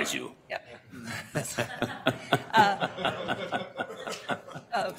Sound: audience laughter

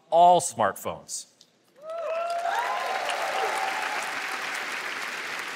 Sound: cheers and applause

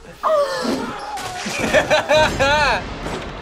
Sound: laughs

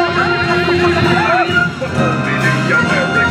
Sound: patriotic themed music; chickens clucking

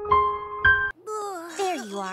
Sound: grunts

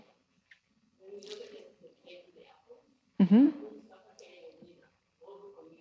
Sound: speaks softly in distance

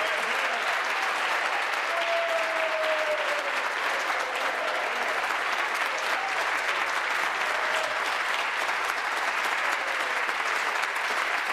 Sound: applause

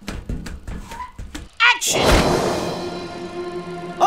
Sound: explosion

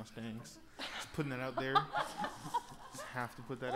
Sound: laughing

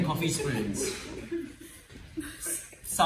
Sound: laughter

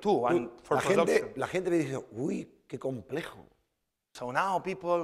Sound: speaking spanish

